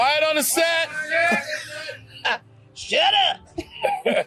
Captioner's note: laughs